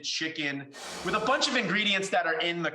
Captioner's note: air whooshes